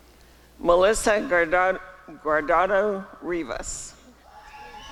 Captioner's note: applause and cheering